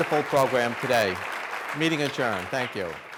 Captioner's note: audience clapping